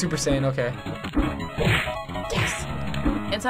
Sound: punches landing

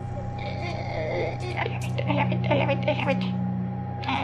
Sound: more screeching

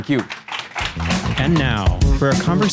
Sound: audience applauding

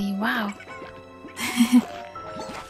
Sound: laughter

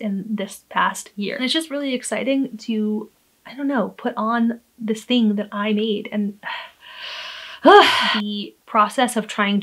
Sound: sigh

